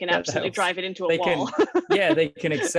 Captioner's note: laughs